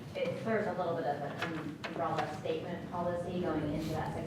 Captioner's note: speaking off mic